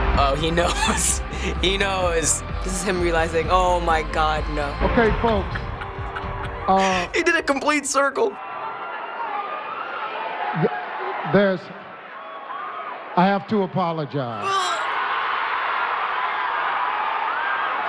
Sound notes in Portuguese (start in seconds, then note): 0.3 risos; 4.0 Risinhos; 8.3 aplausos da audiência e sopros; 14.4 gemidos; 14.4 explosões de audiência